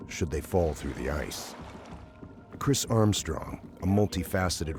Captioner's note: voiceover